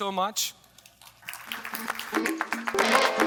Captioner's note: audience applauding; upbeat music